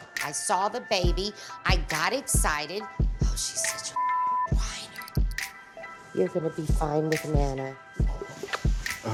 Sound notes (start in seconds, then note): 3.9 beep